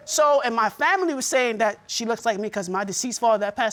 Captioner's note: in normal voice